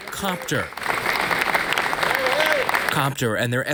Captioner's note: audience applauds